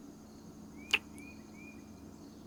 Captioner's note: kiss